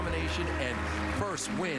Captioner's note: applause